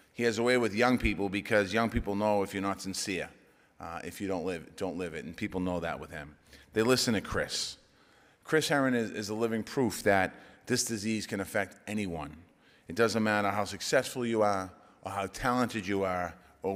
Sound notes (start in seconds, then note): none